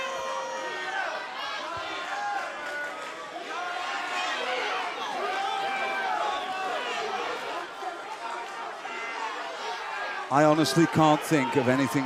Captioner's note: crowd chatter